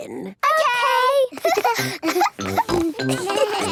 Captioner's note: laughter; snorting; bleating